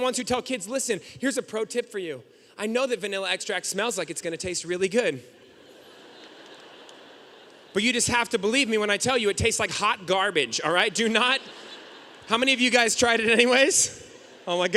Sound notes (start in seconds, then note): 5.9 audience laughing